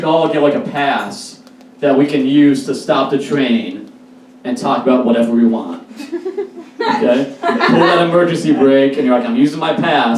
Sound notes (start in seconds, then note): 5.9 A few laughs